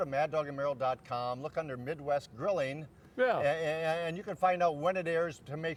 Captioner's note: none